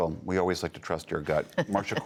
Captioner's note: laughter